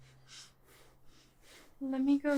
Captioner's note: Jen pants